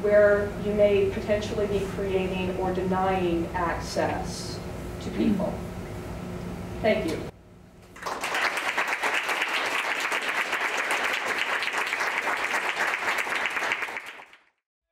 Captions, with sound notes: where you may potentially be creating or denying access to people. Thank you. (audience applause)